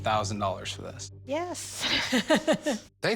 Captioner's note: chuckles